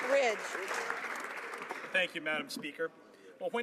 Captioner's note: some Applause